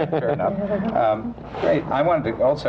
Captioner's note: laughter